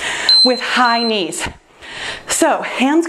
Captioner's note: timer beeps